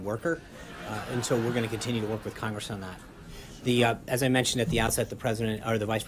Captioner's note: laugh track